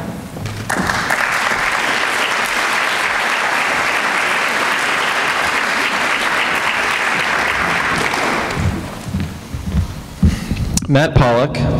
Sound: applause

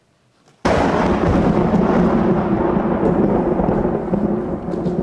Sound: thunder roaring

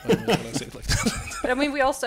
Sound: laughs

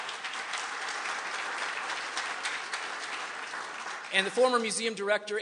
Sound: applause

